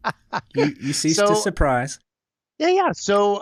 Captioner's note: laughter